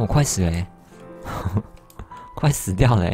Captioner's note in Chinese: 苦笑